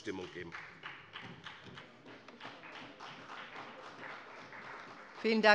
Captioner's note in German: Beifall bei dem BÜNDNIS 90/DIE GRÜNEN sowie bei Abgeordneten der CDU